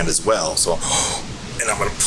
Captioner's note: inhaling